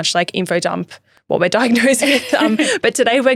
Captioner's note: laughing